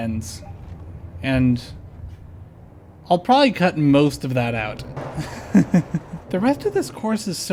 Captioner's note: chuckle